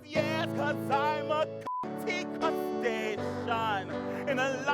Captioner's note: beep